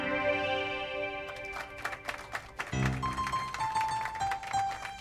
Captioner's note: applauding